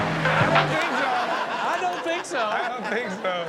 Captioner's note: audience laughs